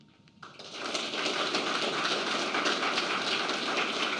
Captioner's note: applause